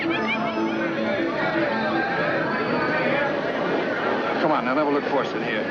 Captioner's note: people chattering